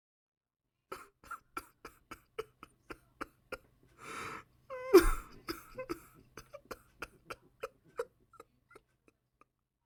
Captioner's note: JP sobbing